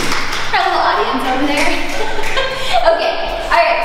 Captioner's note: clapping; laughs